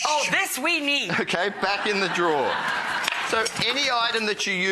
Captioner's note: audience laughing